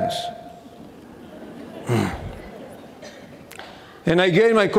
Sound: audience laughing

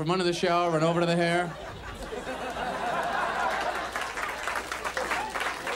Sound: audience laughs

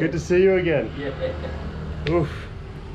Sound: laughing

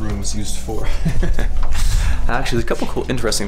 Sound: laughing

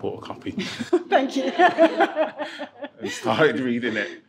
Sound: laughing

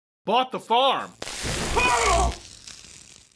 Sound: screams in pain after an electroshock

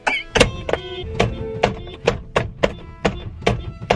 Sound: loud banging

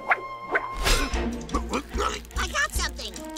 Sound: grunts, splutters

